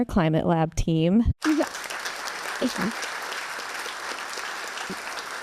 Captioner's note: audience applause